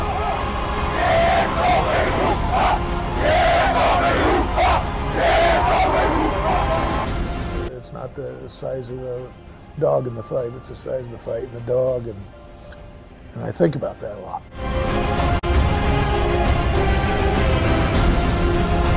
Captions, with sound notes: (players cheer) - It's not the size of the dog in the fight, it's the size of the fight in the dog. And I think about that a lot. (suspenseful music)